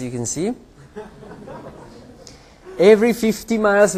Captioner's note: laughter